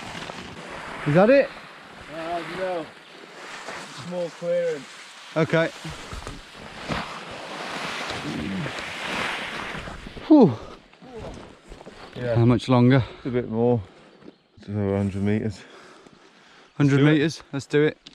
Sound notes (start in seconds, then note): 10.2 both sighing